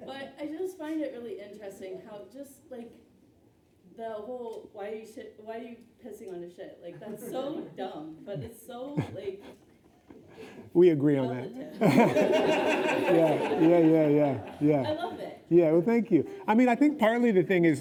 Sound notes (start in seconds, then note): 11.7 laughing; 11.7 laughs